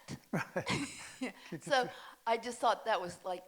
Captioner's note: both laughing